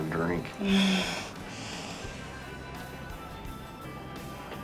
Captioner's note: Lynn laughs